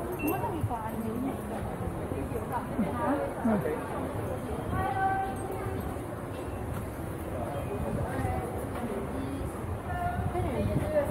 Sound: indistinct chatting

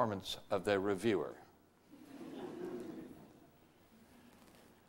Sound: audience laughter

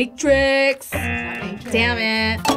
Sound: bell dings; klaxon sounds

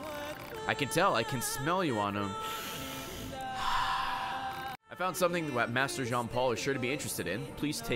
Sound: sniffs

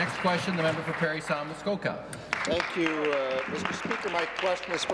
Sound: applause

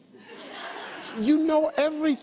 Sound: audience laughs

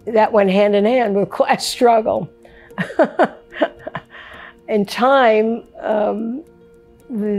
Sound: laughs

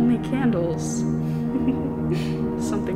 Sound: laughter

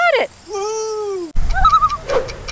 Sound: loon call

